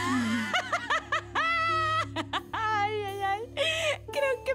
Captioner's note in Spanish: Risas